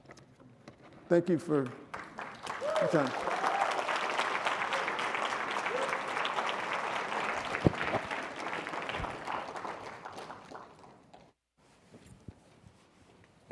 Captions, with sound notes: Thank you for your time. (audience applauding)